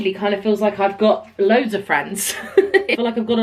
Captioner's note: laughs